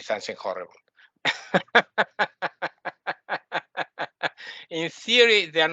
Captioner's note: laughing